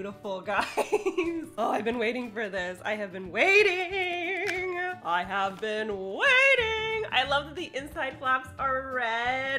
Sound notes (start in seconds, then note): 0.0 laughs; 2.8 sing-song